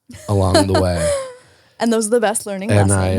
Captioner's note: laughs